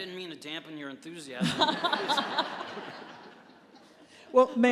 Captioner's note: laughter